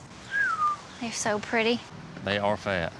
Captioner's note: whistles